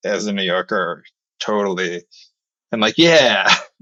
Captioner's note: <Laugh>